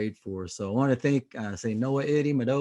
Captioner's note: speaking native language